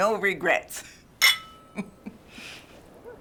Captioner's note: glasses clink; laughing